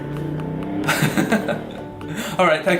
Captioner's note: laughs